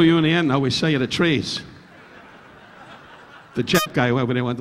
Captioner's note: audience laughing